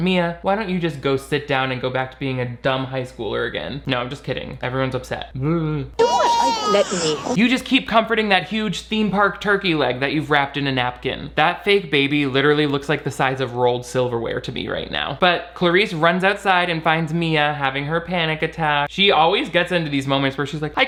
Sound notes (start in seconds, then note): 6.0 baby crying